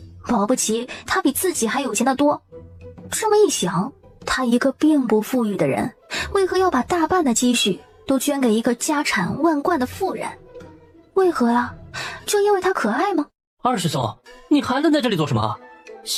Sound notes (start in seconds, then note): none